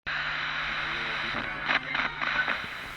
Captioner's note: static